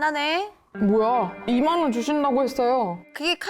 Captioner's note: betrayal effect; cheeky effect sound